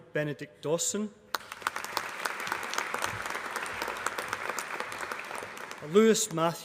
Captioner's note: applause